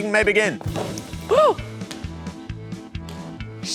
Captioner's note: gasps